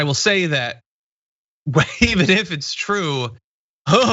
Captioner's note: laugh